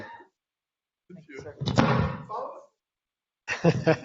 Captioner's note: laughing